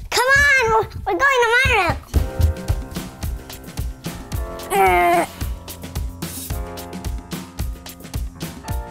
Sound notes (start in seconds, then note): 2.1 upbeat music; 4.6 grunts